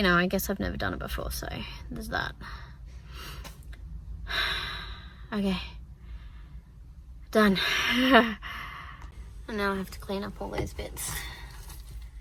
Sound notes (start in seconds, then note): 4.6 sighs; 7.8 laughs